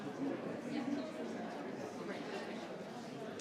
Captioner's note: speaks faintly